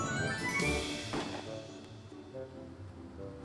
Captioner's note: engine backfires